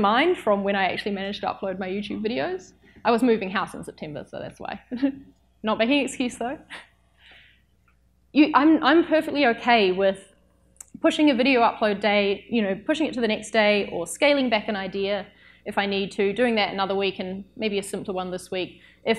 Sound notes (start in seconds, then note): 5.0 laughs